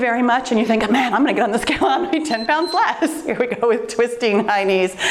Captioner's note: timer beeps